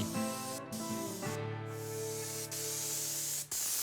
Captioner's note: paint gun whooshing